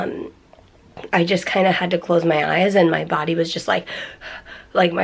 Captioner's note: gasping